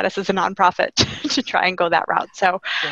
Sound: laughing

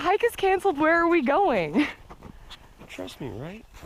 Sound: chuckles

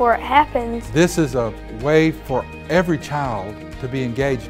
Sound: voiceover

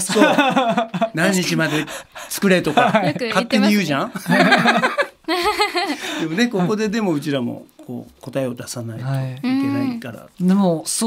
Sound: laugh; laugh

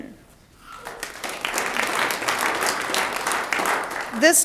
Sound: audience applauds

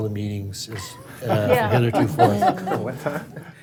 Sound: laughing

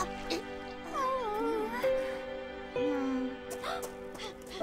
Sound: Malika groans

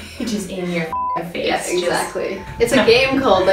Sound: beep

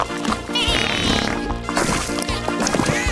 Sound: bleating

